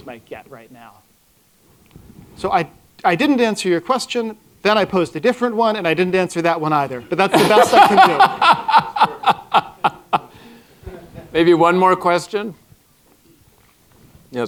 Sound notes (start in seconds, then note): 7.2 laughter